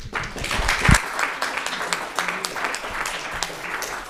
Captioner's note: audience applauds